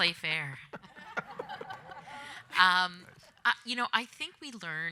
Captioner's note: audience laughing